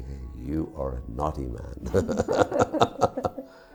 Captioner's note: laughs